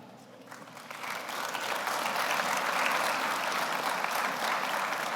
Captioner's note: audience applauds